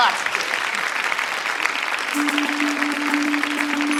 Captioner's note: applause